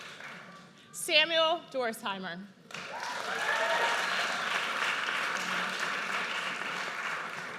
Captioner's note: audience cheers